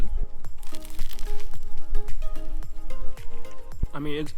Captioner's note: more crunches